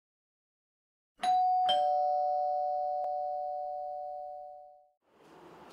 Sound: door bell rings

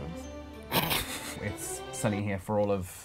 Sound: laughing

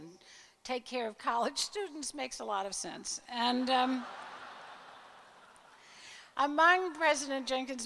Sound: crowd laugher

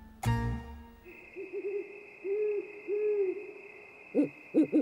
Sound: owl hoots

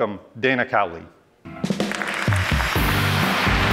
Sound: applause

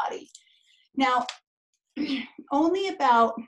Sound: clears throat

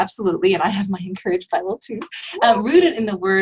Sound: laughs

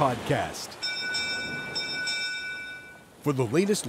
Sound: bell rings

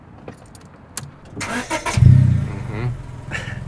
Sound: engine starts

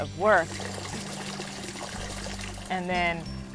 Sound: water trickling

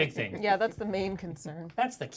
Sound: speaker chuckles

